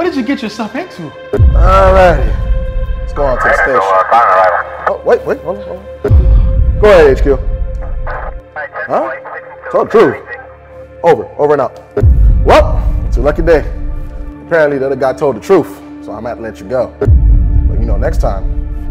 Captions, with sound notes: WHAT DID YOU GET YOURSELF INTO? ALRIGHTY. LET'S GO ON TO THE STATION. *police radio* OH! WAIT! GO AHEAD HQ! HUH? TOLD THE TRUTH? OVER AND OUT! WELL! IT'S A LUCKY DAY. APPARENTLY, THE OTHER GUY TOLD THE TRUTH. SO I MIGHT LET YOU GO. BUT, YOU KNOW, NEXT TIME,